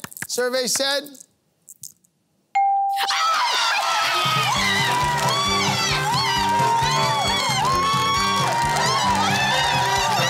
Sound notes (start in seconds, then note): 3.0 cheering; 5.3 screaming